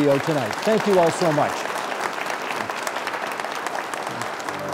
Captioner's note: applauding